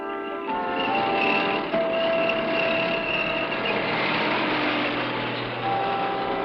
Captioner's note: motor rumbling